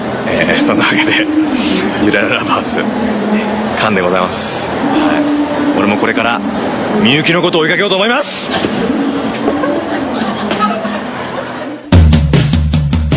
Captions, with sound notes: So, back to reality... DRRR!! Lovers, finished safely And now... I'll be chasing Miyuki too!! *staff giggling*